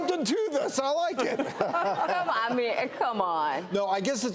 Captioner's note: audience laughs